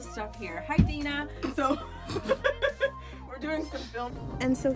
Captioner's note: laughs